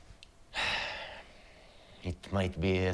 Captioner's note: Rick sighs